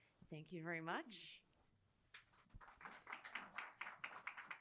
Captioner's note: applause